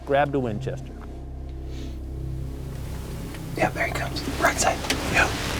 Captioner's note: whispering